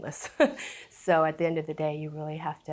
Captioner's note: chuckles